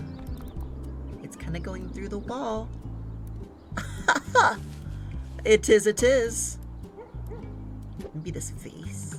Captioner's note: laughs